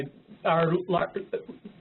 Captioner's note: off-mike